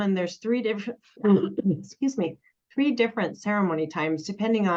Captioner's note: coughs